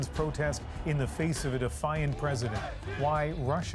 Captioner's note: chanting